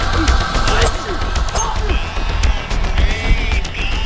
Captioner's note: grunting